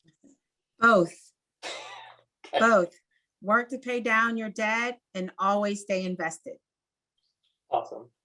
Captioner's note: laugh